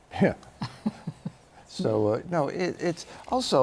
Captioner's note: laughter